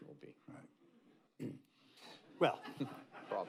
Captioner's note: laughter